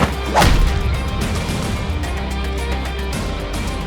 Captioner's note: fist thuds; upbeat techno music continues